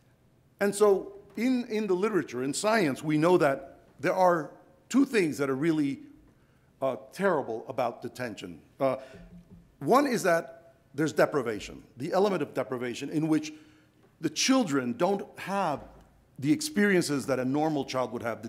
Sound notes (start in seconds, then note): none